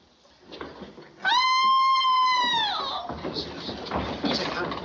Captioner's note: screaming Continues